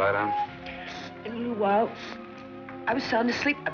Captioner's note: sniffling